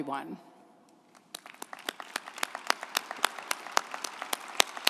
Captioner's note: group applauding